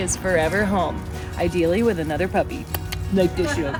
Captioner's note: lips smacking